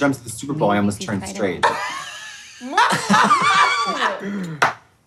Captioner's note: both laughing